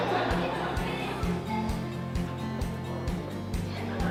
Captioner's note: audience laughs